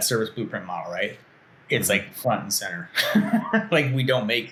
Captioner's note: laughs